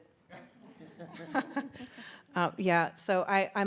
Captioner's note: audience laughs